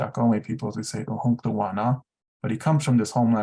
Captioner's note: non-english speech